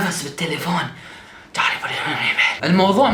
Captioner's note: imitating Urdu speech